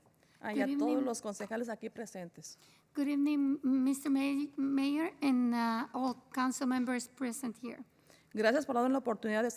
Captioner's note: spanish